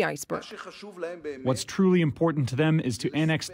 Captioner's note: through translator